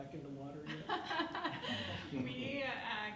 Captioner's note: laughs